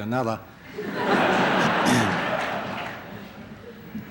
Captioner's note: laughter